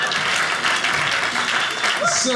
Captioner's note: audience laughing; audience clapping